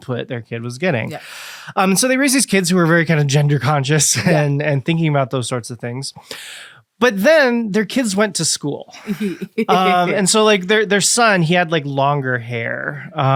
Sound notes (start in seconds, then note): 9.0 laughs